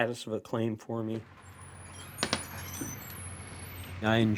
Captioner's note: screen door opening